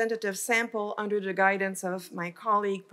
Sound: none

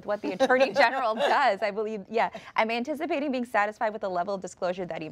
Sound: laughter

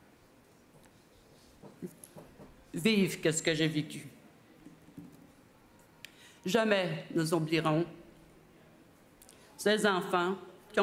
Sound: speaking French

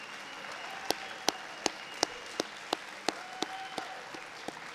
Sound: audience applauding

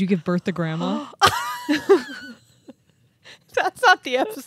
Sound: chuckling

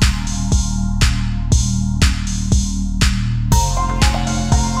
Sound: water dripping echoes

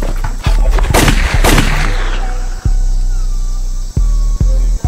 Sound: gun firing; moody hip hop music continues

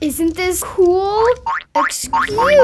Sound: bouncing

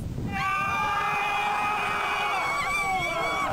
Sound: screaming

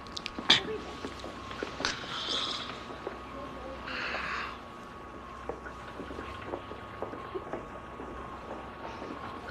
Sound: John coughing

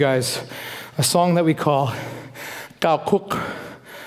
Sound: foreign speaking

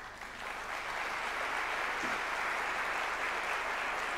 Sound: audience clapping

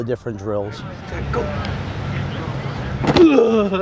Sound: bodies crashing into equipment

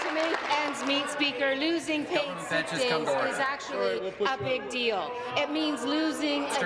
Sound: applause

